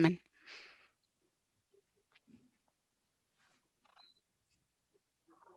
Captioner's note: speaking foreign language